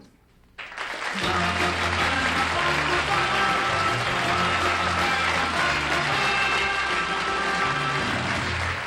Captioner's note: applause